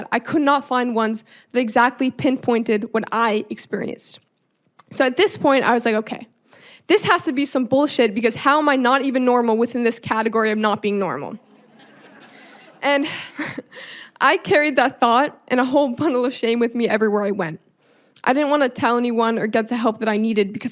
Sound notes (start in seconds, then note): 11.5 audience laughing; 11.7 chuckling